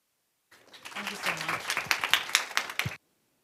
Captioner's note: applause